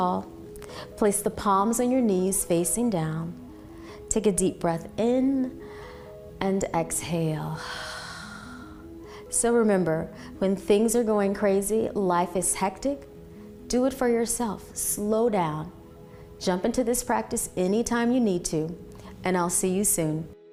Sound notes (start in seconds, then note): 7.6 exhaling